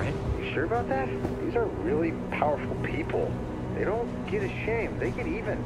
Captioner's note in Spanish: none